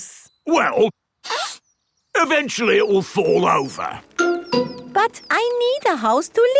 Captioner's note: sniffs